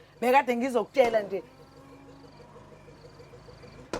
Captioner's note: car honking